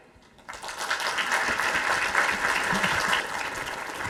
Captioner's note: audience applauding